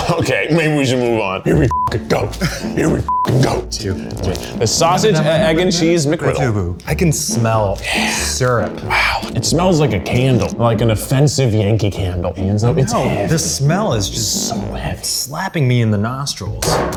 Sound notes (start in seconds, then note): 1.7 beep